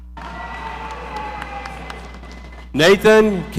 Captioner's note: audience applauding